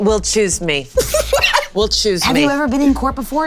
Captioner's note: Damien laughing